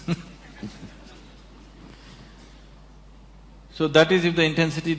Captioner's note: laughs